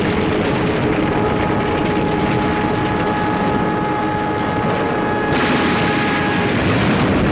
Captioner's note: intense battle sounds, guns, explosions, aircraft engines